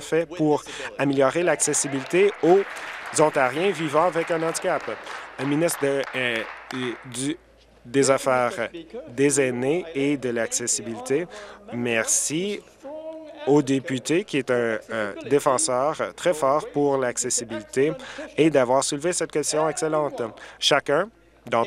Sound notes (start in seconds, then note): 4.7 applause